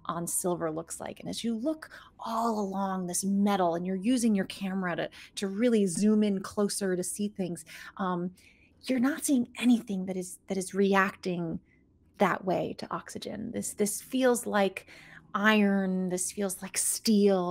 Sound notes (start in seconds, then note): none